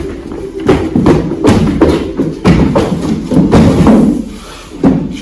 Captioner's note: running footsteps